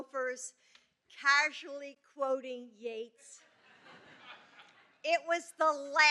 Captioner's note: laughter